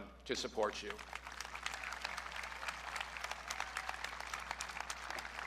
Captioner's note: audience clapping